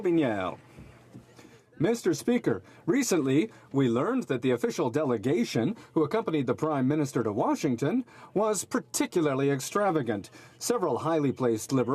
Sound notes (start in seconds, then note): 2.0 speaking French